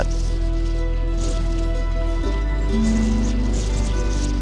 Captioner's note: desert wind sounds